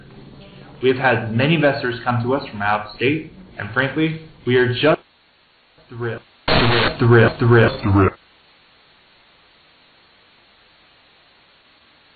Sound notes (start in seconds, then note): 7.8 low pitch